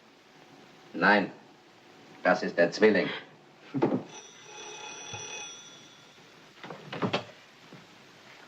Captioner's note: telephone Rings